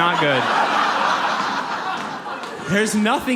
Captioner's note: audience laughs